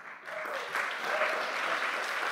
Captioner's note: crowd noise